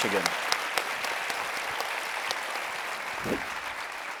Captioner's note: audience applauding